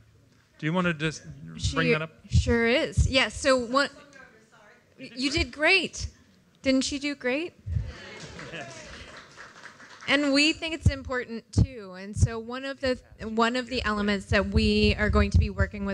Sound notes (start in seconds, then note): 7.9 audience member voice approval; 8.0 applause